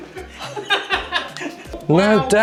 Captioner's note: laughing